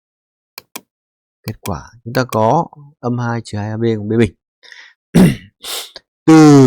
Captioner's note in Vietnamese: hắng giọng; khịt mũi